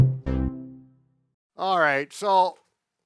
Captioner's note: music stops